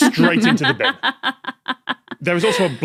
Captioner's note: laughs